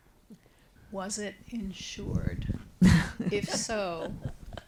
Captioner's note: everybody laughing